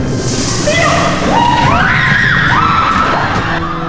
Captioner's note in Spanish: gritos